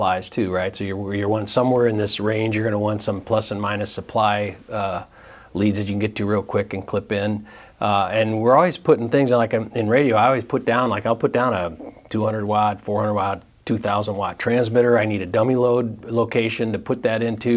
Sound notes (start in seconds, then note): none